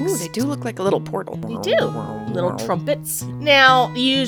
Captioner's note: weird portal noises